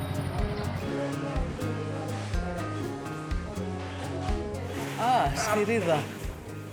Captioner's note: background chatter